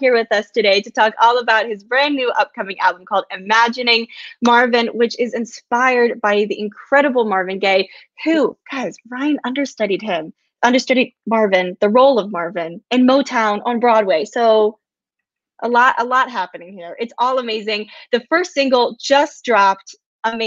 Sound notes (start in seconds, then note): none